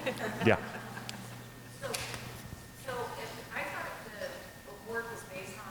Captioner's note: crowd laughs